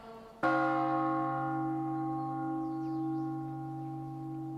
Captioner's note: bell tolls